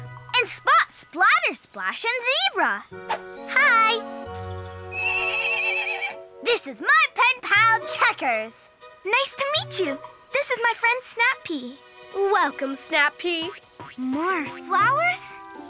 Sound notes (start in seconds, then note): 5.0 zebra neighs